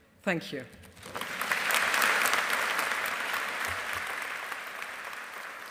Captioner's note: audience applauding